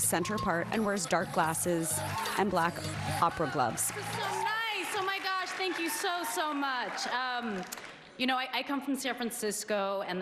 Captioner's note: applause